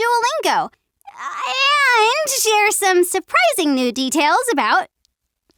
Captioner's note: winces